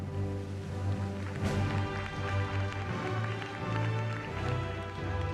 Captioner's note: applause